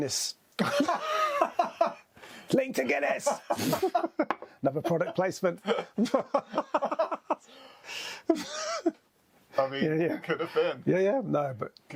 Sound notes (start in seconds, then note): 1.0 both laughing; 3.2 laughs; 5.6 both laughing